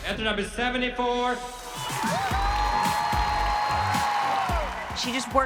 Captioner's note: cheering; bright music playing